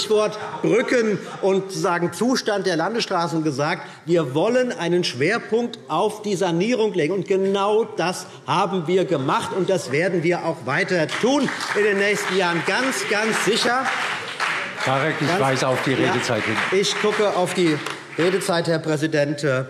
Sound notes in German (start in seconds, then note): 13.6 Beifall CDU und BÜNDNIS 90/DIE GRÜNEN